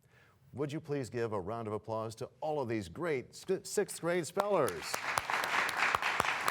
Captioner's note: applause